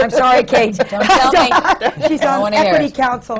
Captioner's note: laughter